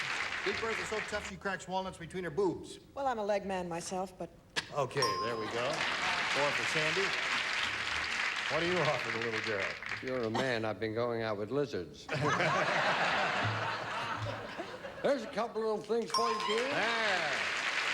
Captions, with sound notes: BIG BERTHA'S SO TOUGH, SHE CRACKS WALNUTS BETWEEN HER BOOBS. WELL, I'M A LEG MAN MYSELF, BUT-- OK. THERE WE GO. 4 FOR SANDY. WHAT DO YOU OFFER THE LITTLE GIRL? IF YOU'RE A MAN, I'VE BEEN GOING OUT WITH LIZARDS. [LAUGHTER] THERE'S A COUPLE OF THINGS FOR YOU, GENE. THERE.